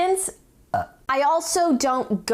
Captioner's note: burp